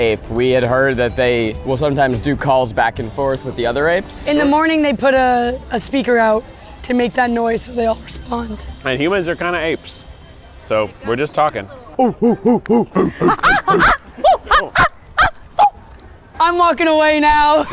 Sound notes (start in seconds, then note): 12.0 all grunting like monkeys